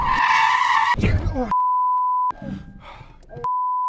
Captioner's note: tires screeching; beep